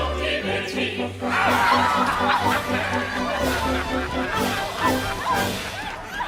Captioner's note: GIRLS scream, PIRATES laugh